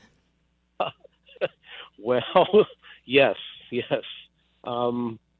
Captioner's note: laughs